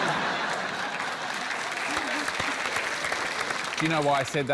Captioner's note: laughter; applause